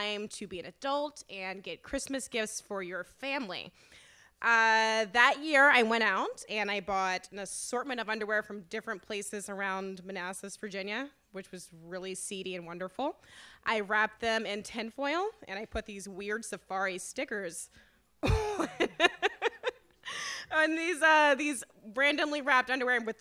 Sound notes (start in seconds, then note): 18.3 laughs